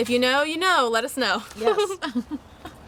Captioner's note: laughing